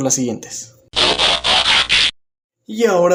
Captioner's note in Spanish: Sonido de transformación